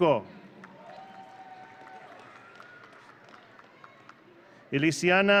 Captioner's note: audience cheering